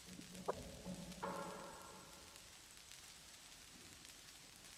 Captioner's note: static pops